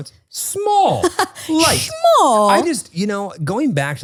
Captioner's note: laughs